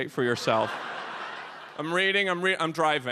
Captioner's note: audience laughs